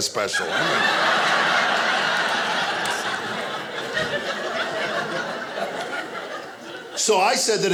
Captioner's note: audience laughing